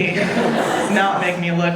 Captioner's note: audience laughing